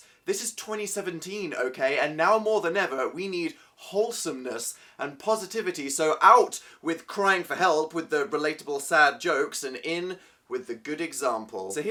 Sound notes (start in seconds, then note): none